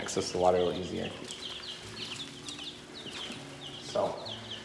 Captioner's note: chirping